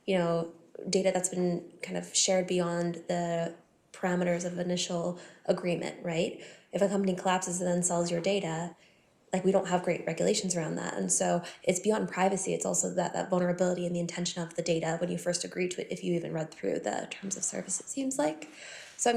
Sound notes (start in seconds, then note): none